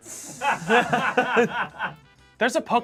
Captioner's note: crew laughs